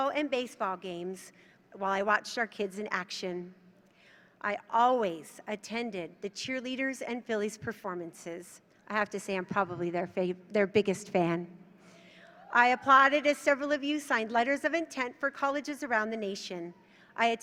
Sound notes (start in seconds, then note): none